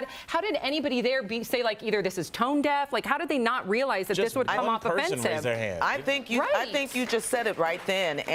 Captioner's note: applause